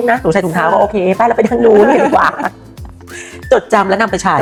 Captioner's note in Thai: เสียงหัวเราะ